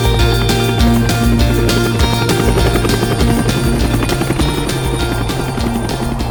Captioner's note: helicopter whirring; upbeat music continues